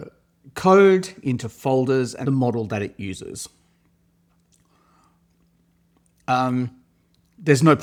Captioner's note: inhales deeply